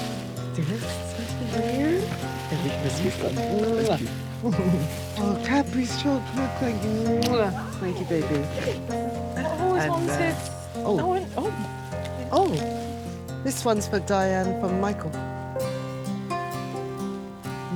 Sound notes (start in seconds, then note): 4.4 Evelyn chuckling; 5.2 participant faintly speaking; 6.7 kiss smacking; 15.1 upbeat music